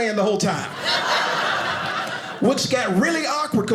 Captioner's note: audience laughing